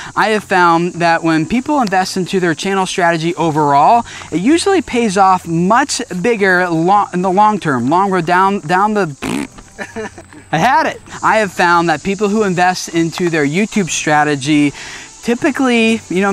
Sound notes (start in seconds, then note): 9.7 man laughing